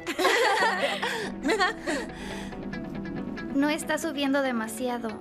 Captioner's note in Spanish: todos riendo